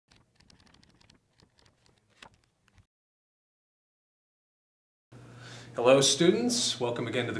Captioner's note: book pages flipping